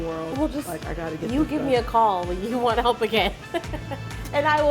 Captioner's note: laughs